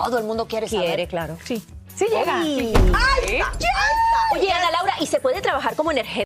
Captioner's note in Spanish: grito